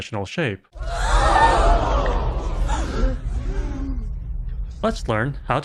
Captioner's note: crowd gasping